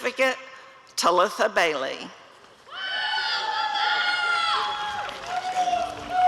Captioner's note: applause and cheering